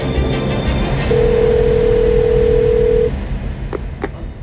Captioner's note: phone ringing